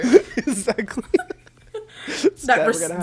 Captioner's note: both laugh